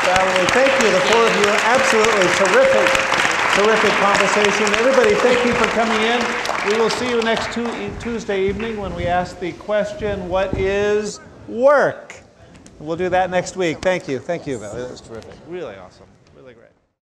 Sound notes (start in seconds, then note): 3.0 crowd applauding